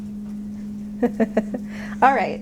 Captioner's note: laughing